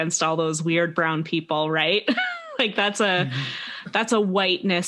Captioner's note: /sarcastic